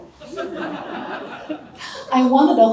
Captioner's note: audience laughter